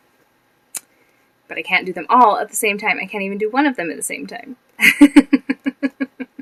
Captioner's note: chuckle